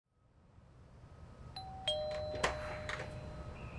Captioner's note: doorbell ding